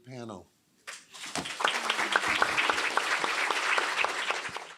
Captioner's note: applause